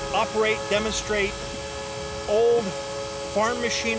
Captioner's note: train whistling